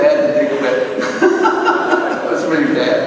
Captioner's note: laugh